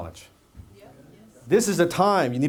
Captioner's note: audience says yes